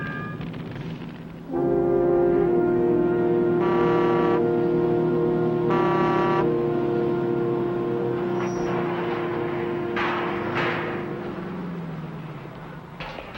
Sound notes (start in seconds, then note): 1.8 somber music; 3.8 horn blaring; 10.3 gate clangs open